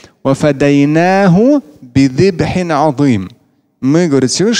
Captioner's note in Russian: Говорит на арабском